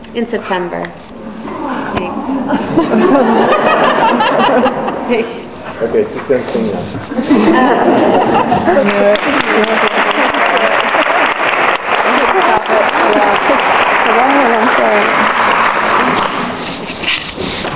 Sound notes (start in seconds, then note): 1.3 women awwing; 2.0 audience laughs; 9.0 audience applauds